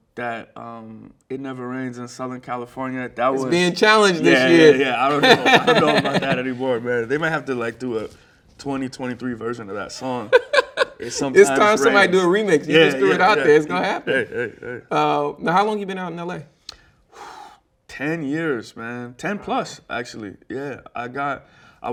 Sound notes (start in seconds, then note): 10.0 laughing; 17.2 sighs